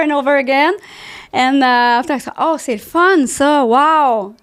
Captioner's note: in french